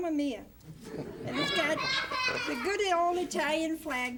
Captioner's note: laughter